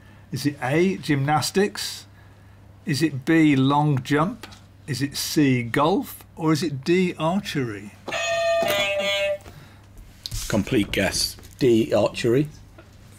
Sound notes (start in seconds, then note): 8.1 beep beep; 8.1 clang